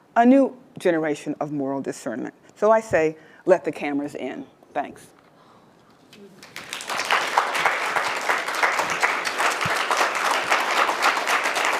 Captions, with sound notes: a new generation of moral discernment. So I say, let the cameras in, thanks. (audience applauds)